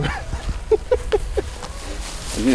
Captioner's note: laughter